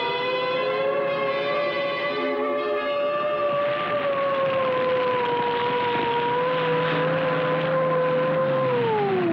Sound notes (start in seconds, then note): 0.8 siren Wailing; 3.4 fire Crackling